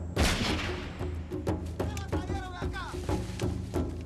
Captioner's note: gunshot; shouting in spanish